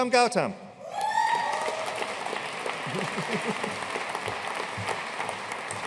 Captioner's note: audience cheering and applauding